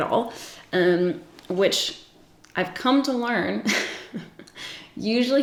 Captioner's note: giggling